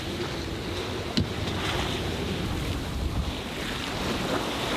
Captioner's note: lapping waves